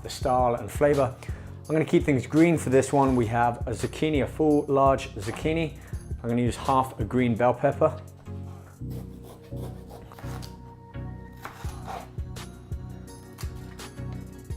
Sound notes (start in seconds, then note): 9.5 chopping